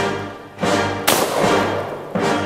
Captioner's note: gun fires